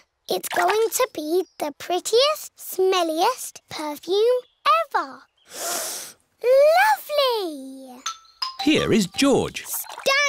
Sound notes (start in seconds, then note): 5.5 sniffs